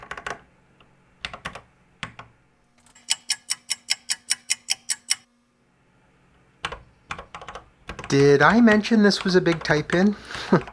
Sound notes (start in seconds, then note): 3.0 clock ticking